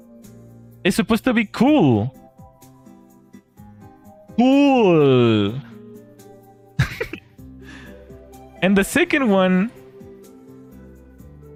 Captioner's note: laughter